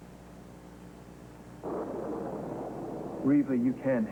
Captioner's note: thunder